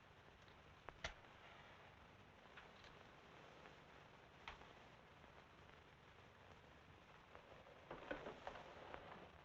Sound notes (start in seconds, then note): 1.5 match sticking; 7.9 door rattling; 8.6 door thumping